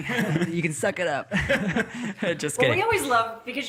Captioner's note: all laughing